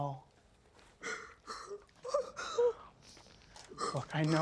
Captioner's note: muffled moaning